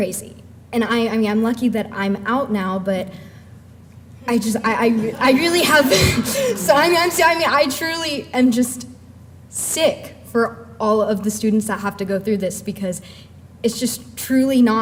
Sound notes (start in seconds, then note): 4.7 laughter